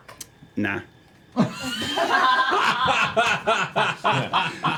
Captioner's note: laughter